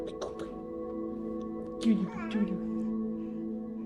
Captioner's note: baby cooing